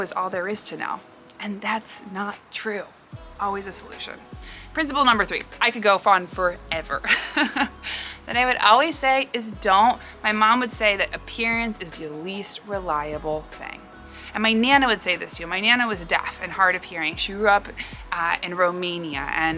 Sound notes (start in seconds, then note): 7.0 laughs